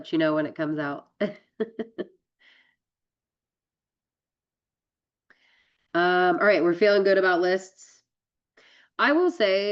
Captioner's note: laughs